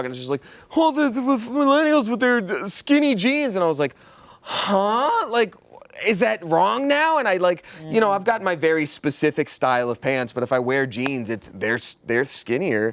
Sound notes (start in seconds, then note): none